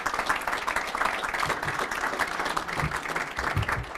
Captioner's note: applause